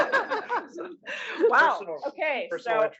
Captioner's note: laugh